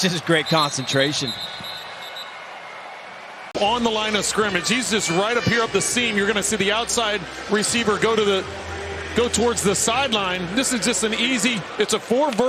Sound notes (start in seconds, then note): 0.4 whistle blowing